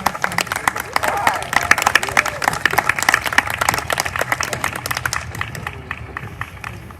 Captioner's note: applause